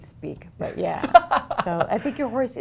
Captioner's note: laughing